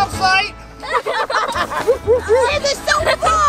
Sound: laughing

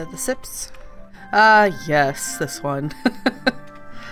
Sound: laughs

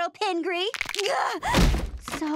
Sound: cracking, groaning

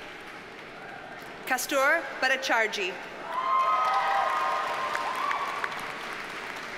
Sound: audience cheers and applauds

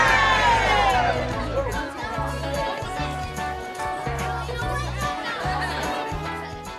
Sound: chattering

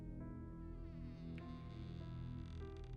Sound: door creaking

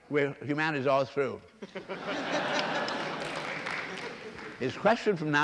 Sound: laughter

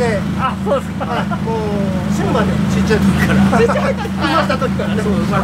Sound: laughing

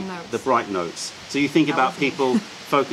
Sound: laughter

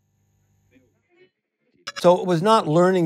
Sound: digital blip

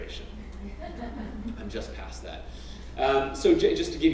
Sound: laugh

